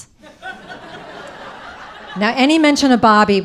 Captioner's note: audience laughing